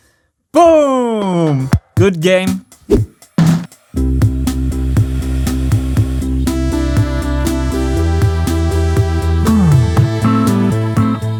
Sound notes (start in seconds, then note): 2.9 whack